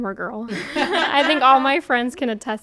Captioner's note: women laughing